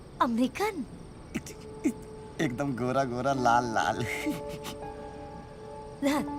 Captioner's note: chuckles